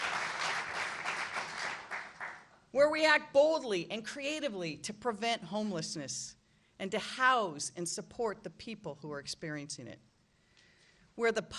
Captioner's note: applause